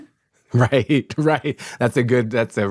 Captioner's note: laughs